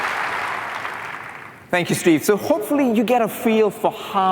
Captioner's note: applause